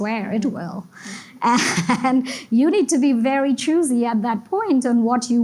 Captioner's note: laughs